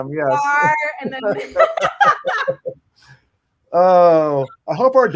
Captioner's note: panelists laugh